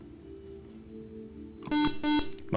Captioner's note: beep